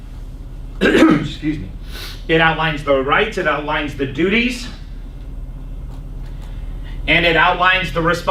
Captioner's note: clears throat